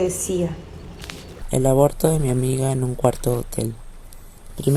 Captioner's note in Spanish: sonidos de agua, imágenes calle & voz en off masculina